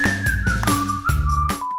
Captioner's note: upbeat music playing; beep